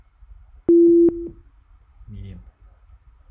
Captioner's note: medium tone beeps